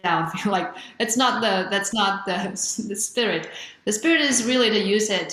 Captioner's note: chuckles